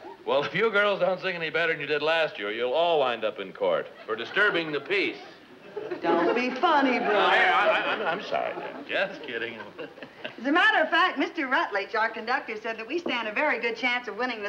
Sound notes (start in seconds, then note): 9.7 Brad laughs